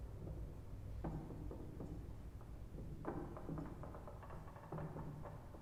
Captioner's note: wood clattering